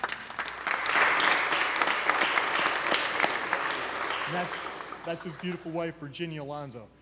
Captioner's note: applause